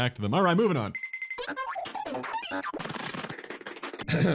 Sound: goofy ahh cartoon sfx

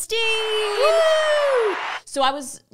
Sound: cheering

